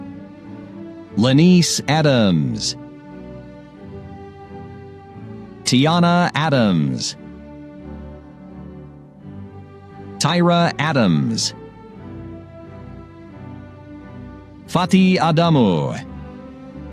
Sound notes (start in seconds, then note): none